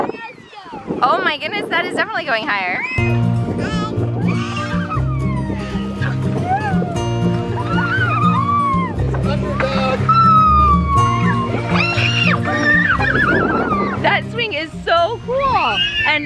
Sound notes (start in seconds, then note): 5.1 kids squealing